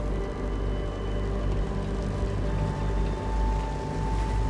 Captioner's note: boat engine humming